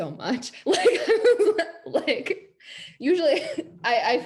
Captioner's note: laughs